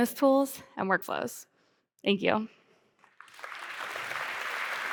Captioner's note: applause